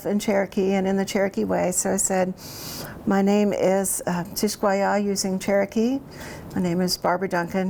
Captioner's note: speaks Cherokee